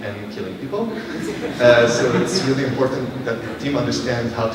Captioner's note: laughter